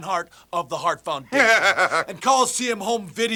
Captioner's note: Jim chuckling